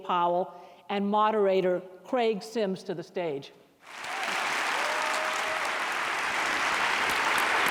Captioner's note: applause and cheering